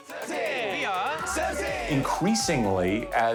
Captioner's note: speaking Korean